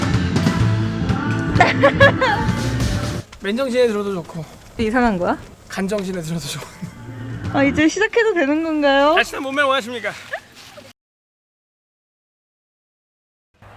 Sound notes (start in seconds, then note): 1.4 laugh